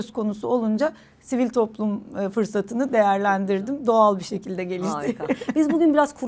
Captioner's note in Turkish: kahkaha